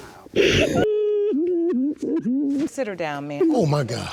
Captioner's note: sobbing